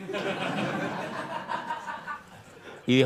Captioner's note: laughter